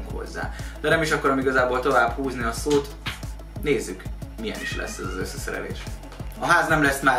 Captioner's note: random evil cat Meow